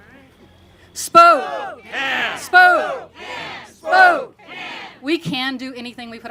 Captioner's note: congregation shouting